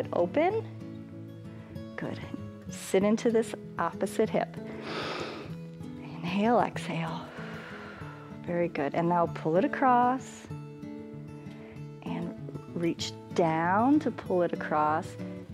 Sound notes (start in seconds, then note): 4.6 inhales; 7.5 exhales